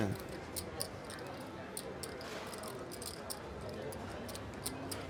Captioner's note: soft clacking